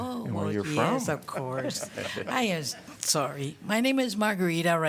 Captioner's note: laughter